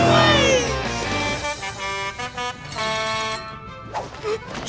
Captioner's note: honking